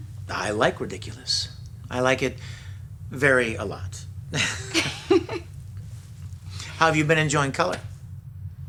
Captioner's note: laughter